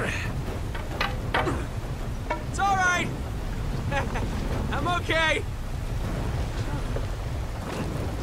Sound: chuckles; sighs

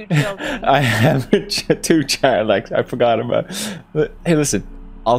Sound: laughing nervously

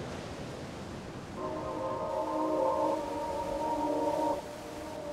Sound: water sloshing

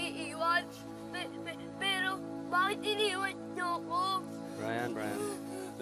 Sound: stammering

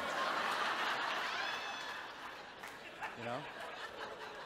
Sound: audience chuckles

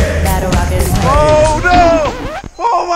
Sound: record scratches

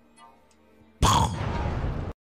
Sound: gunshot

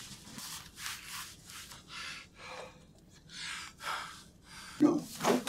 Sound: Brian breathing heavily

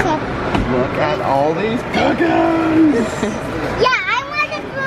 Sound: laughs

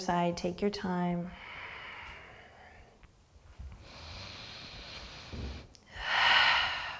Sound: deep breathing

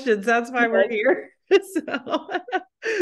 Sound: laughs

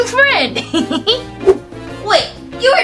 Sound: giggles

